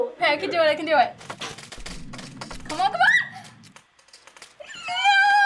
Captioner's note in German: Quietschen; Pfeile fliegen